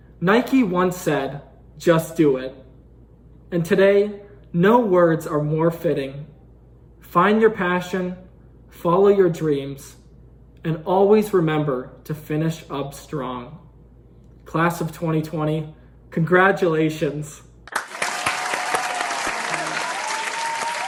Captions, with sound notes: Nike once said, "Just do it." And today, no words are more fitting. Find your passion, follow your dreams, and always remember to finish up strong. Class of 2020, congratulations. (cheering)